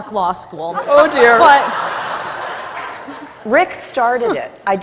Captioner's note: audience laughs